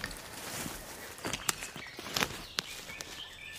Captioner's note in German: Vogelzwitschern